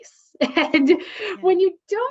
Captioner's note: laughs